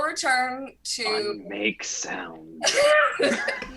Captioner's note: laugh